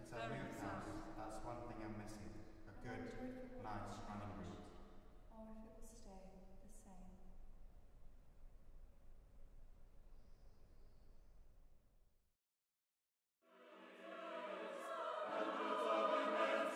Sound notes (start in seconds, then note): 4.0 soprano, spoken